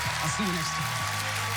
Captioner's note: audience cheering